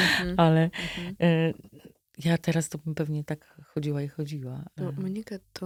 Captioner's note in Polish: wciągnięcie powietrza